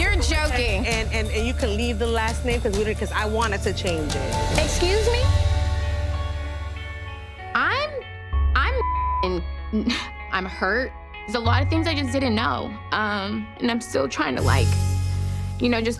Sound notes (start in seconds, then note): 0.0 laughing; 6.4 tense music; 8.8 beep; 9.3 stuttering